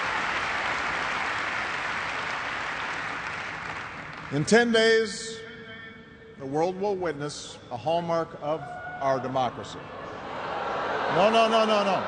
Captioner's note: cheers and applause